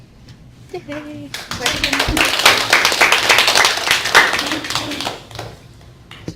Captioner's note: clapping